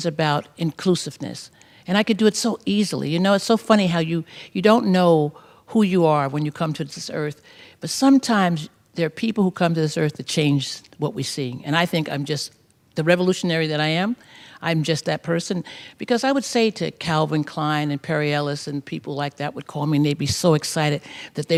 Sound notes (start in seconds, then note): none